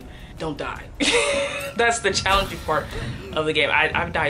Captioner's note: laugh